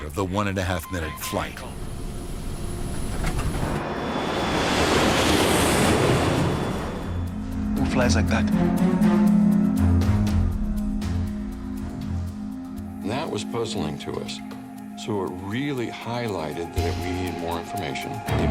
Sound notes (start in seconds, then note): 2.5 airplane engine roaring; 10.9 sinister music